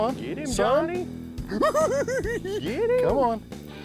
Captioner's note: cackling